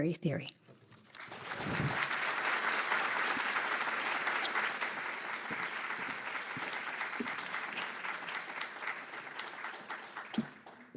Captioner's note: applause